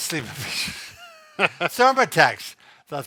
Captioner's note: both laughs